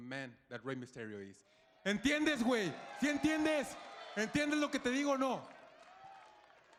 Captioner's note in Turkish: Humberto İspanyolca konuşuyor